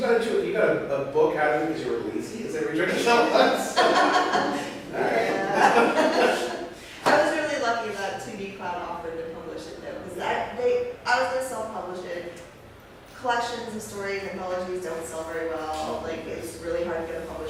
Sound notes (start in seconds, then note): 7.6 laughs